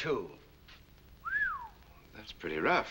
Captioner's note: whistles